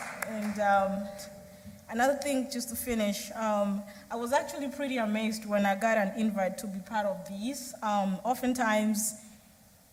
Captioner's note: applause